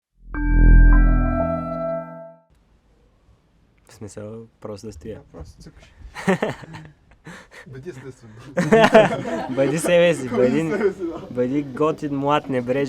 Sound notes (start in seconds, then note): 6.1 laughs